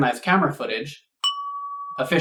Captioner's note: ding!